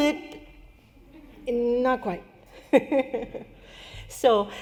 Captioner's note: laughter